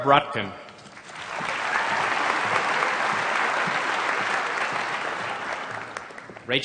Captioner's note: applause